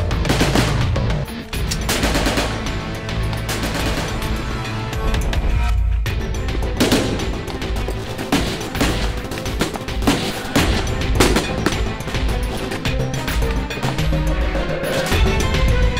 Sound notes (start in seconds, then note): 1.4 machine gun burst; 8.2 distant gun shots